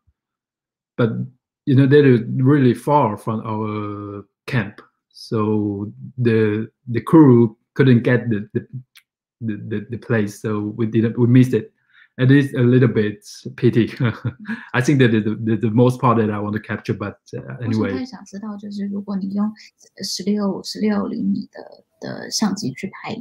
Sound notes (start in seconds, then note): 13.5 chuckle